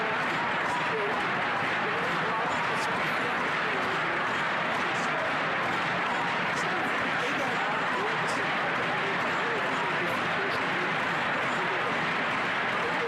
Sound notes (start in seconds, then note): 9.2 crowd Noise